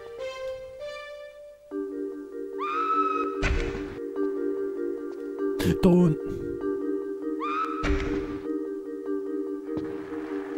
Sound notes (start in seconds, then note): 5.4 gasps